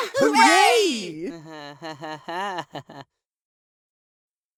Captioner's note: test tube laughs nervously